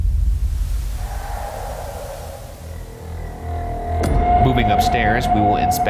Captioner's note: distant scream